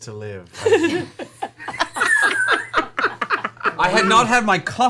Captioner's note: all laugh